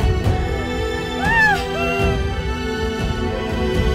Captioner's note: Sobbing